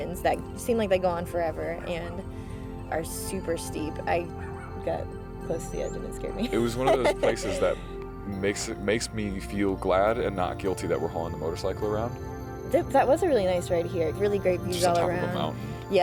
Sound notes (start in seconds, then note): 6.4 laughs